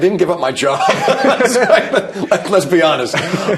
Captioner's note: both laugh